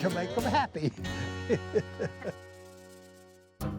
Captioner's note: laughing